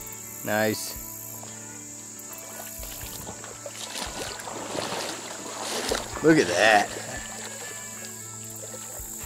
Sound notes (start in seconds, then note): 2.3 water splashing